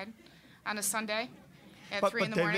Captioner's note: audience laughing